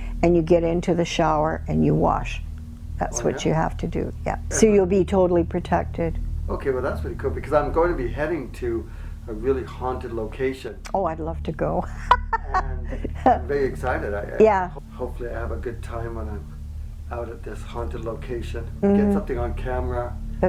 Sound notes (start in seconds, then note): 11.9 laughing